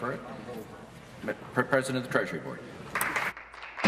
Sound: applause

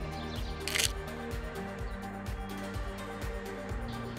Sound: camera clicking

